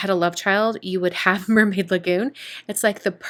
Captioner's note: giggling